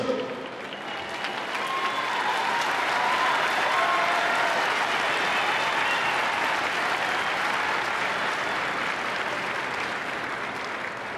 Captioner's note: applause